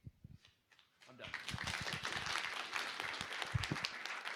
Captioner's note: applause